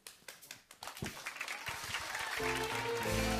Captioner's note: cheering and applause